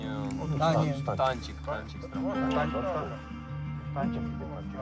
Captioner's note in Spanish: audio hablado en ucraniano